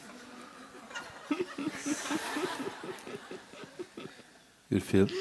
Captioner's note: laughter, questioner laughs